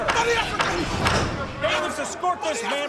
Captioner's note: cell door slams